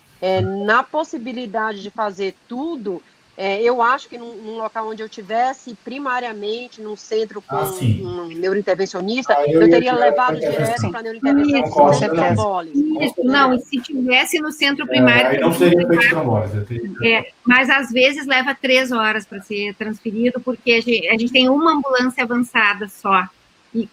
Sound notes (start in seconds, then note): 16.1 multiple voices